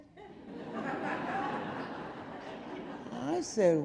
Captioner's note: audience laughing